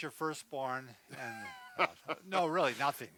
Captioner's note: laughter